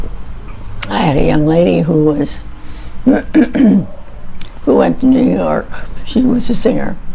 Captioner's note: clears throat